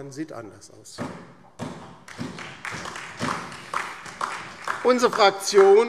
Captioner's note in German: Beifall DIE LINKE und SPD